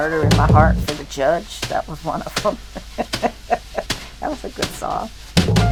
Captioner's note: laughs